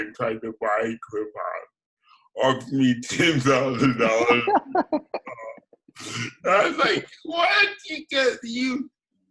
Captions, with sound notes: and tried to buy Krip Hop, offered me $10, 000 (laughs) I was like, what you guess you,